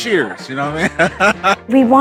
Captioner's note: chuckles